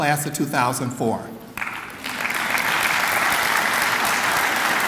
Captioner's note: clapping